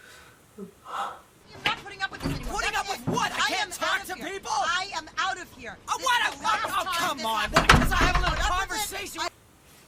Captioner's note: people arguing